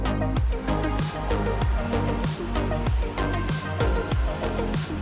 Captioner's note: water sloshing; smooth music